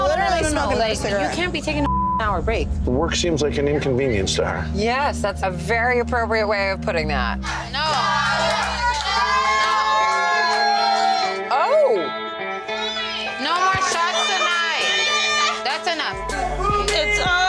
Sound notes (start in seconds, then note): 1.8 beep; 7.9 customers cheering